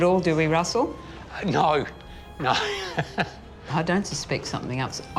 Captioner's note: laughs